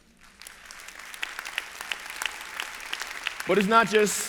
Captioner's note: applause